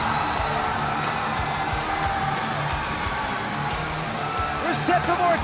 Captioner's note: cheers & applause